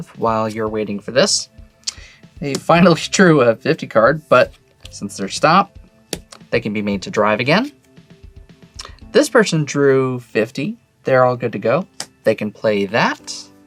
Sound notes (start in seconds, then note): 6.0 card slaps